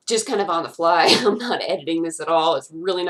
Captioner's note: laughs